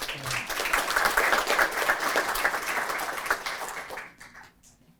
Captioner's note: applause